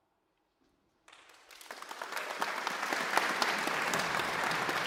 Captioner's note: audience applauds